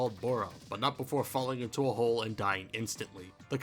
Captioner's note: none